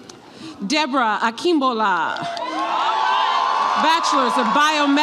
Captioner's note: audience applauds and cheers